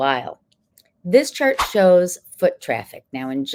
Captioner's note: text whooshing